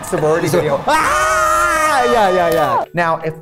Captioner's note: both yelling